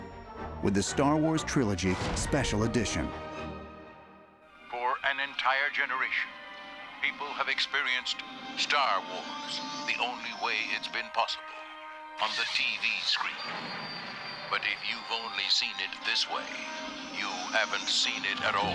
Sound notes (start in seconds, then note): 4.7 man Announcing